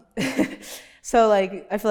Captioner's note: laughs